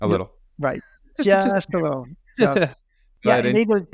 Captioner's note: chuckles